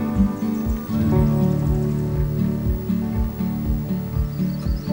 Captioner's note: bird screech; birds chirping